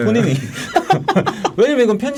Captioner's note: laughing